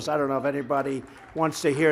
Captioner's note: applause